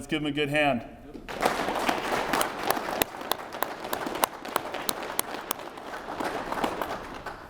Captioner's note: applause